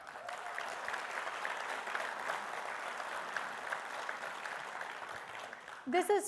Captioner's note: attendees cheering and applauding